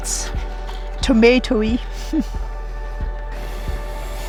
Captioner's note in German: lacht